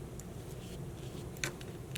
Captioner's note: brushing